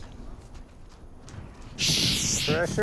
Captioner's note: hisses